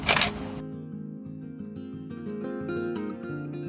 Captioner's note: camera clicking